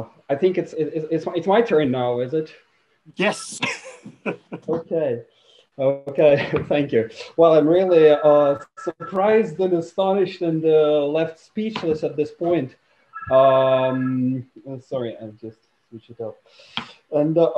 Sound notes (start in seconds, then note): 3.3 laughs; 13.1 phone ringing